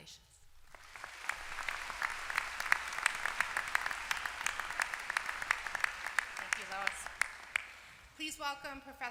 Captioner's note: applause